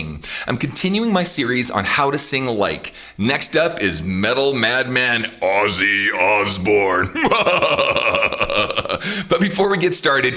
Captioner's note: laughs